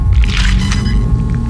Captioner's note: static noise